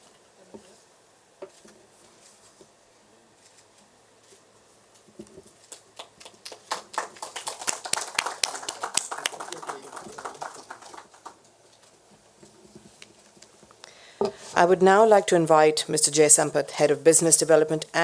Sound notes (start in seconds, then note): 5.9 applause